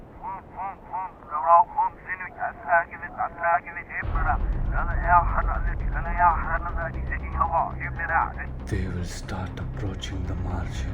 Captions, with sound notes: (TALKING REVERSE IN WALKIE TALKIE) They will start approching the MARGIN